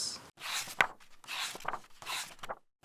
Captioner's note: pages turning